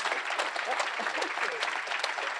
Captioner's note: applause